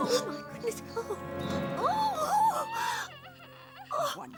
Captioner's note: Bunny crying